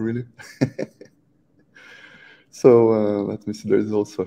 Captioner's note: laughs